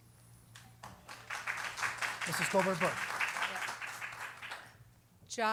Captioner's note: applause